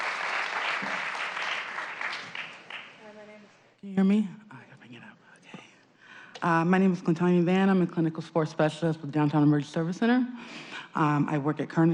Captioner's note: applause